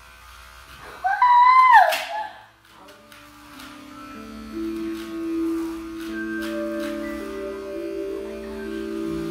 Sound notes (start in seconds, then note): 1.0 squealing; 7.7 whispering